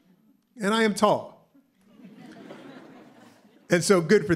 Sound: laughter

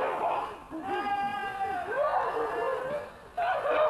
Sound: cries of anguish

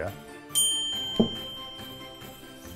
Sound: ding!

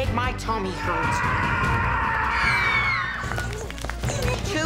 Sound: screams

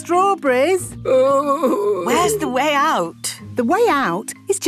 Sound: groaning

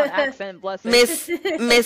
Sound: laughter

